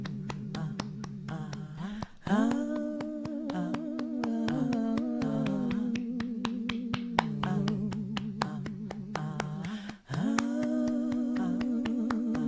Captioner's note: humming